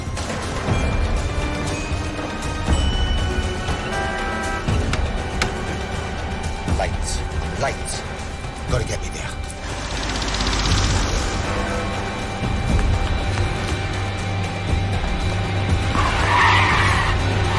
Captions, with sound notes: I'M LATE. I'M LATE. GOTTA GET ME THERE. ( chiming ) ( brakes screeching )